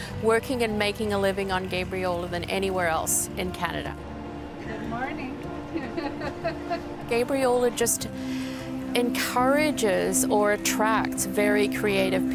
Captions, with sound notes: working and making a living on Gabriola than anywhere else in Canada. - Good morning. (laughing) - Gabriola just encourages or attracts very creative people.